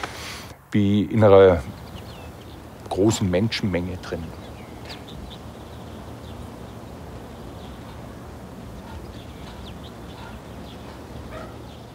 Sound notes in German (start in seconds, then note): 5.0 Vogelgezwitscher